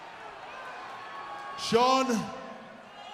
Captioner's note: applause